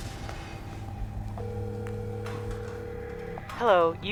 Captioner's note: phone ringing